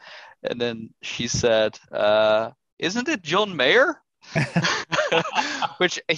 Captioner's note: laughter